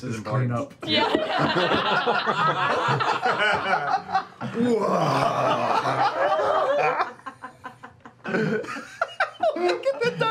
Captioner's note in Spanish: risas